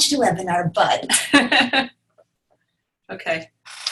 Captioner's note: chuckling